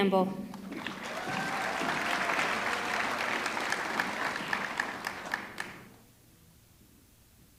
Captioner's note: audience clapping; audience cheering